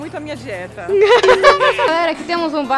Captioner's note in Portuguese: Risos